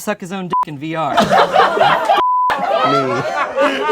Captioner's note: laughs